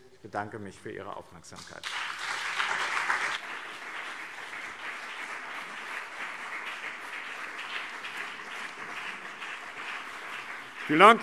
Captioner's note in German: Anhaltender Beifall BÜNDNIS 90/DIE GRÜNEN und CDU